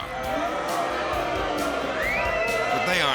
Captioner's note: crowd booing and cheering